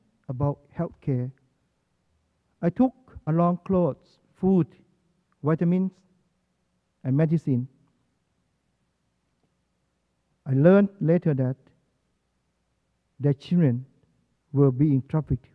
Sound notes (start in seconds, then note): none